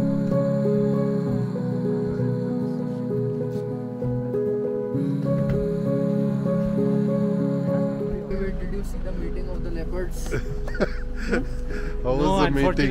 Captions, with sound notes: (gentle music) (gentle music) BTW. Did you see the mating of the Leopards? (laughing)